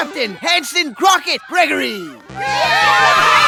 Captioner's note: cheering